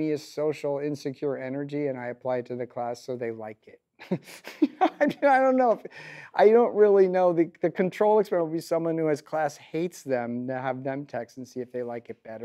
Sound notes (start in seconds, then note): 4.1 laughs